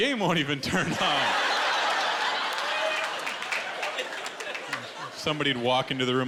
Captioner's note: laughter